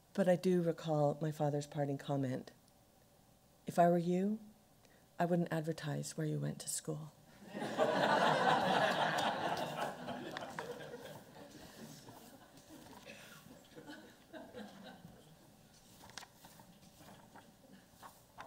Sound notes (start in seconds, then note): 7.4 laughter